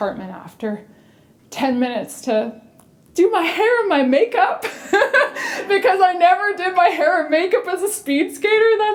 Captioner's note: chuckle